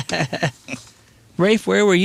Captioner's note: laughing